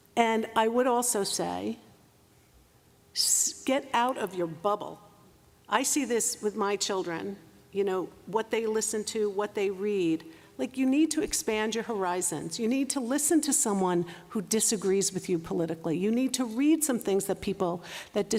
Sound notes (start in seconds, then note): none